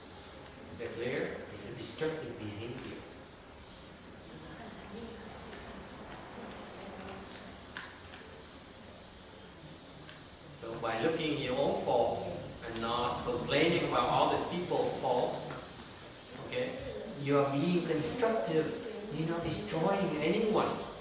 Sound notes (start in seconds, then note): 3.2 background chattering